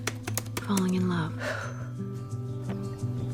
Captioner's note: exhales